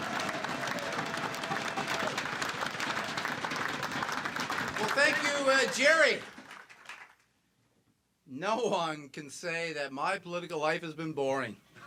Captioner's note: cheers and applause